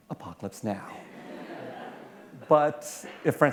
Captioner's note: laughter